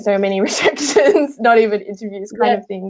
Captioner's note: laughing